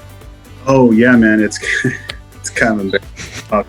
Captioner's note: laughs